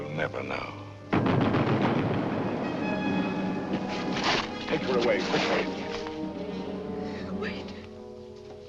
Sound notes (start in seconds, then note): 1.2 rapid gunfire; 3.1 bugle calls